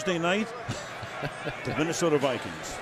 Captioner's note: laughs